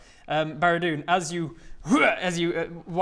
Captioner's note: hrrgh!